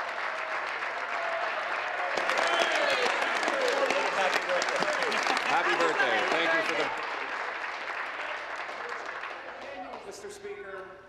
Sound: cheers; applause

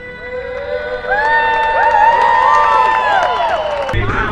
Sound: applause

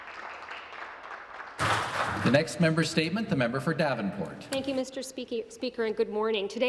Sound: some Applause

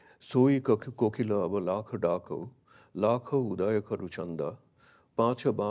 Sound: speaks in a foreign language

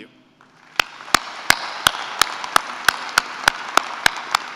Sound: applause

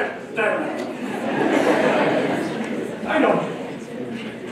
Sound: laughter

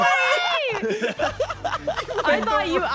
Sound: laughs

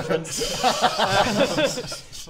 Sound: uncertain laughter

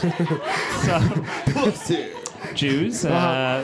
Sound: audience giggling

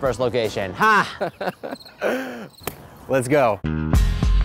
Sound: crickets chirping

